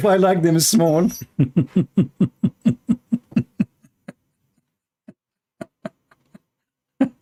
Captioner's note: Ketawa